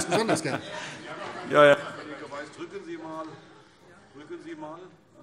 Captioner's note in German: Heiterkeit